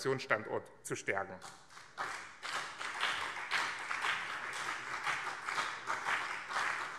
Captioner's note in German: Beifall BÜNDNIS 90/DIE GRÜNEN und CDU